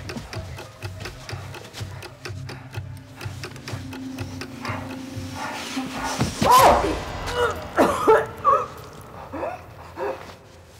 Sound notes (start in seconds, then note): 7.0 gasping and coughing